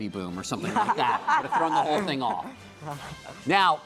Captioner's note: laughing